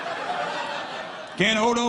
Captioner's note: audience laughing